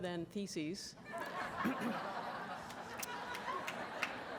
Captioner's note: audience laughs